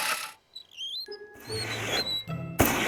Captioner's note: wheels squeaking